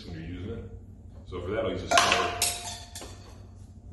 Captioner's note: tool clatters